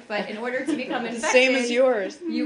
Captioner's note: laughter